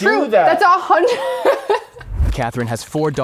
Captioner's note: laughing